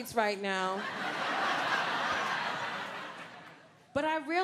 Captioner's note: audience laughing